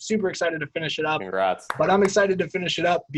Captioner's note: hand clapping